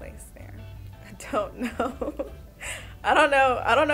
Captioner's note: chuckling